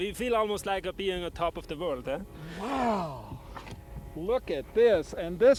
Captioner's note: none